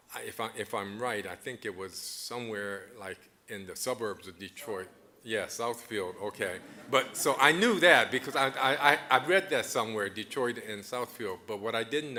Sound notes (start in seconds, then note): 6.0 audience chuckling